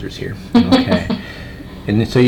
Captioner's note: patient chuckling